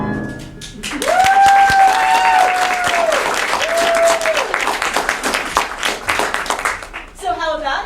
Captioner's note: applause